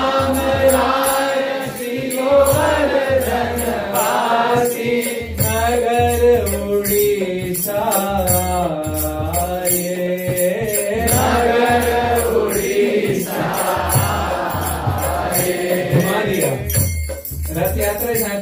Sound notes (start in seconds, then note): 3.3 music and singing; 6.7 chanting